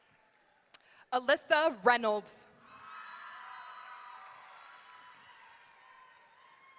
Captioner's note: audience cheering